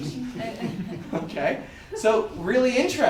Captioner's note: audience laughter